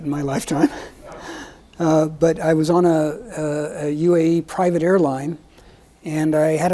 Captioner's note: chuckles